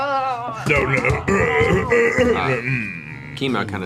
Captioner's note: coughs; groans